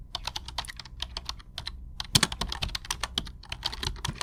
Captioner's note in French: Bruit de clavier